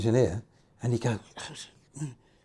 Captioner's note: grumbling